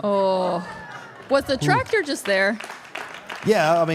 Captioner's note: audience applauding